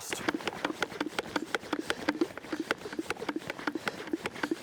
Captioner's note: sprayer pumping